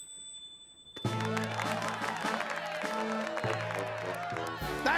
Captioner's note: applause